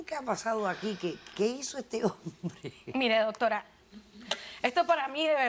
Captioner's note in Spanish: Ríe